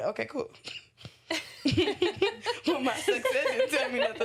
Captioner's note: laughter